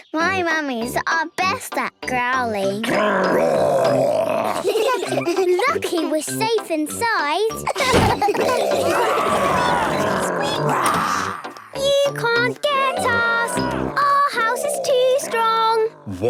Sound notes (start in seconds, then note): 2.8 growls; 4.1 giggling; 7.7 growls, snorts